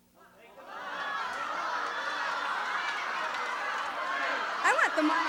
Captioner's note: shouting